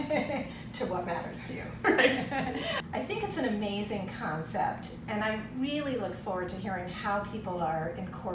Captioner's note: laughter